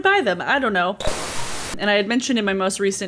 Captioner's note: static hissing